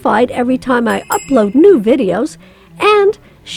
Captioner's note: bell rings